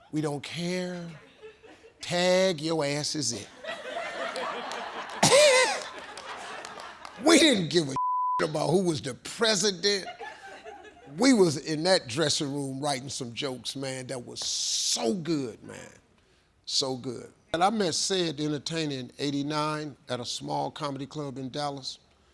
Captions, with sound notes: we don't care, tag your asses in. (audience laughing) We didn't give a (beep) about who was the president. We was in that dressing room, writing some jokes, man. That was so good, man. So good. And I met Ced the Entertainer in 89 at a small comedy club in Dallas.